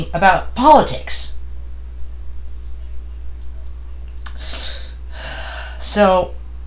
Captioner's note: deep breath